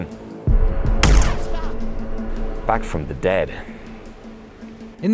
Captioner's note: gun fires